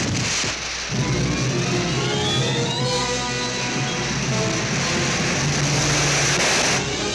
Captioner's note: explosion hissing; rockets whooshing over tense orchestral music